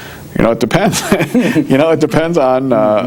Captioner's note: laughing